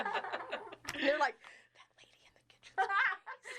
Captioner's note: all laughing; laughing; whispering